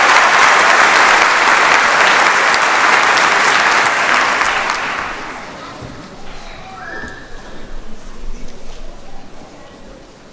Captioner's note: cheers and applause